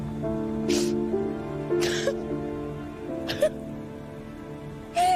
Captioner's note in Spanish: Sollozos